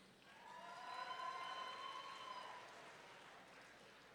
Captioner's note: audience cheering